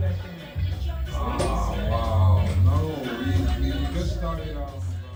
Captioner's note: reggae music; unseen indistinct conversations